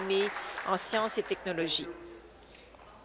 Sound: applause

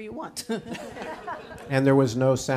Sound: audience and chuckle

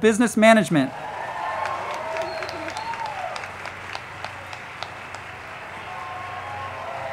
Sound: crowd clapping and cheering; band music

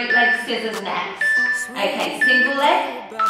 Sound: timer beeping

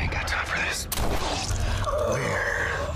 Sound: gunshot

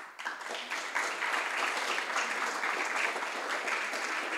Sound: audience applauds

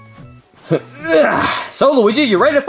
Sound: Mario groaning and sighing

